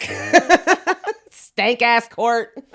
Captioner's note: both laughing